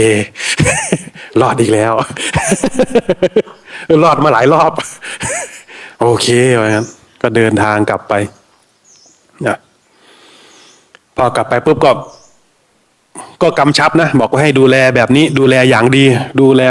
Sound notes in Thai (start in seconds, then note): 0.0 เสียงหัวเราะ; 2.9 เสียงหัวเราะ